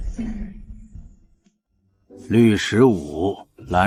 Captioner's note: thud!